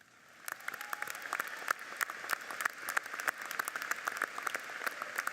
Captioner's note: audience applauds